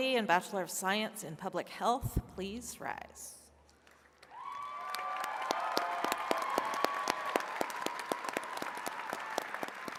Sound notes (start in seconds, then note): 3.9 attendees cheering and clapping